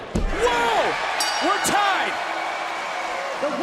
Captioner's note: bell rings